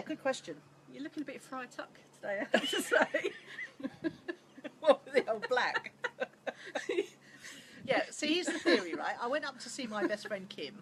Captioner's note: laughs